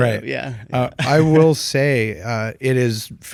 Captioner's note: laughs